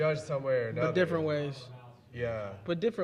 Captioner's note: audience member speaking quietly